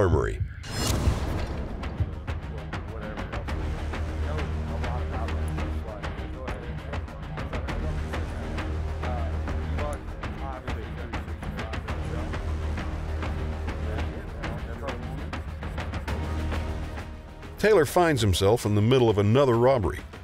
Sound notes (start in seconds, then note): 3.8 dramatic music; 13.7 people talking